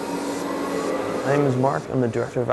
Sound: whooshing air

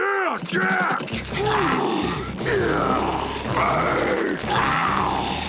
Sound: grunting

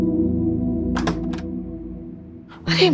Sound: door opens

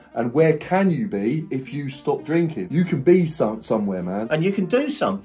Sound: none

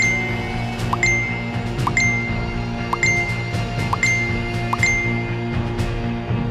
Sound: comments Notice Sound

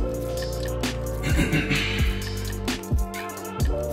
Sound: clears throat

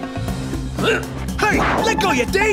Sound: grunts

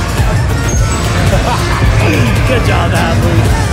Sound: laughing

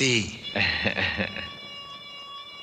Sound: chuckles

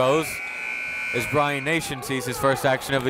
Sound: buzzer

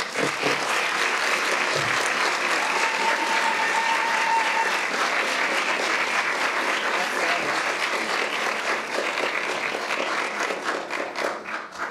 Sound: applauds

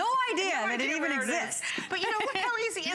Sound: laughter

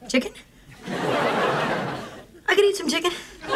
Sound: audience laughing

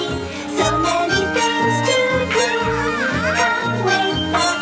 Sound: witch screams

